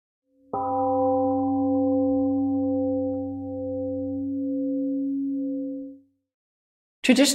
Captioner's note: temple gong rings and fades